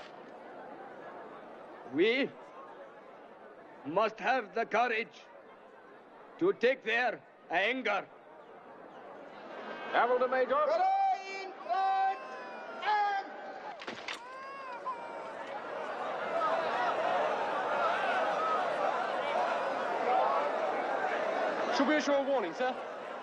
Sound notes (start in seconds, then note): 14.2 baby crying; 15.1 crowd panicking